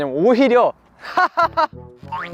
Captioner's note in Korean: Ингэж инээдэг